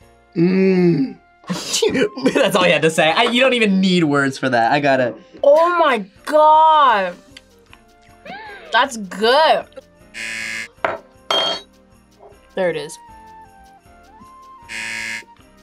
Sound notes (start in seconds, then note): 1.5 laughs; 8.2 gasps; 10.1 buzzer; 14.6 buzzer